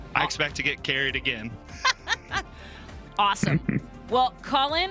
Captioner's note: laughs